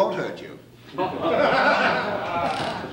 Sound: men laughing

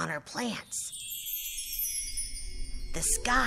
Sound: magic sound

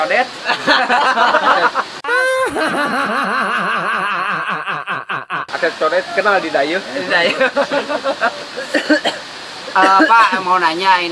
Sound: laughter

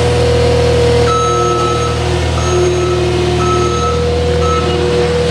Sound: reverse signal beeping

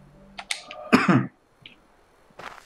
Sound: coughs

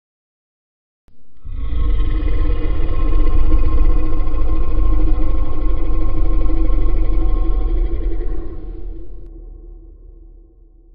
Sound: sound of monster growl

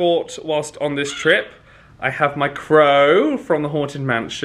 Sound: crow caws

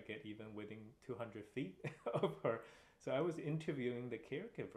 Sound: laughter

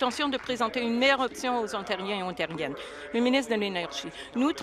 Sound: applause

